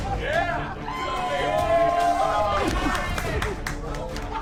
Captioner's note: crowd cheering